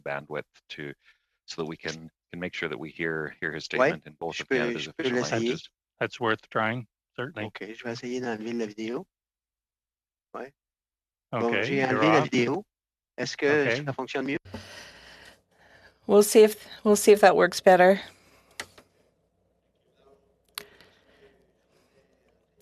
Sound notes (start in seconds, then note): 12.3 speaking French